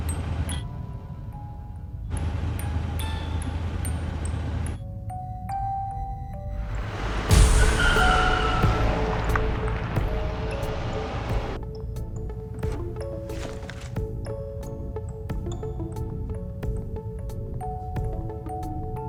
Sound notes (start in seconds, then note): 0.0 soft jingle continues playing; 6.4 intense music; 6.6 tires screeching